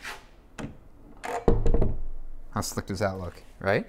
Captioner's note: door creaking